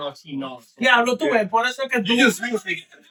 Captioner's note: speaking In Foreign Language